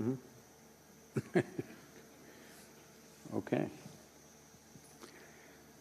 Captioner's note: laughs